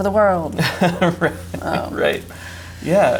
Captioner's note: chuckles